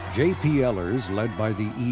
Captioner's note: crowd cheering